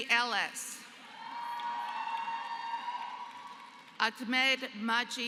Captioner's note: applause